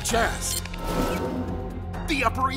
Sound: beeps

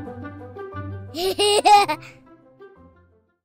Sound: laughter

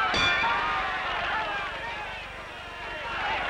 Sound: bell ringing

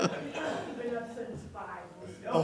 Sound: laughter

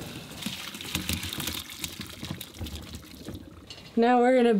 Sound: potatoes thudding

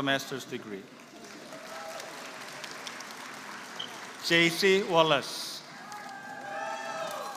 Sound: applause

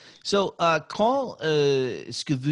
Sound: speaking in French

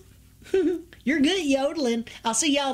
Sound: giggles

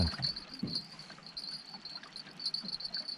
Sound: jangling

